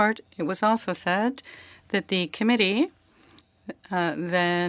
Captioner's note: speaking French